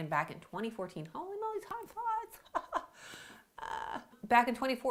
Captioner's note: chuckling